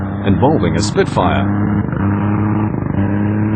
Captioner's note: plane sounds